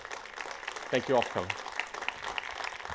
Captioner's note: applause